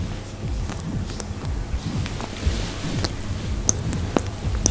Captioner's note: water splashing